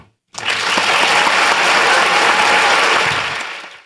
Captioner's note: applause